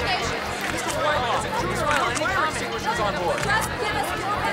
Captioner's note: indistinct chattering